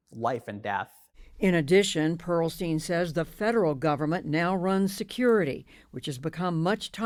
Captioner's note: voice-over